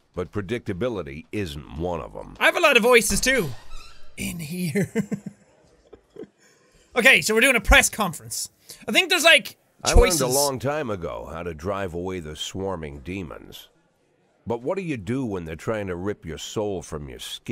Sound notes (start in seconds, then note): 4.6 chuckles